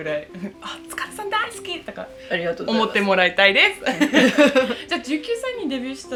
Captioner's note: laughs